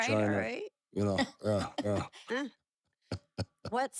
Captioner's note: laugh